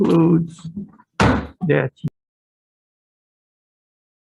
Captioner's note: gavel pounding